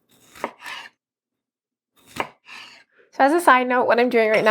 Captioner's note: rhythmic chopping